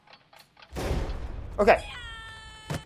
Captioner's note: clock ticking; explosion; man screaming